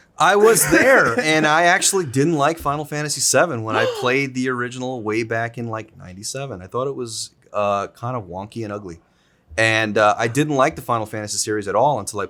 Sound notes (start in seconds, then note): 0.4 Zack laughs; 3.7 Zack gasps